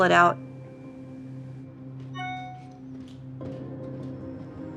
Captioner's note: cellphone dings